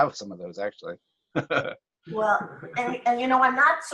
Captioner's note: laughs